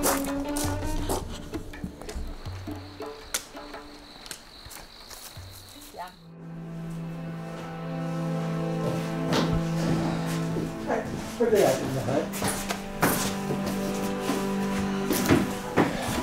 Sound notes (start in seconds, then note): 0.0 footsteps in gravel; 3.4 crickets chirping; 4.1 twigs snapping; 6.9 peaceful music; 11.1 speaking in Japanese; 12.9 peaceful music